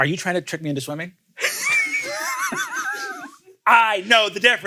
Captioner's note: laugh